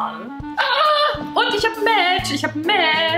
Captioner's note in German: ruft